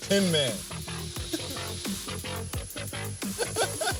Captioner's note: man laughing; upbeat electronica music continues